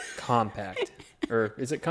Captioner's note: laughs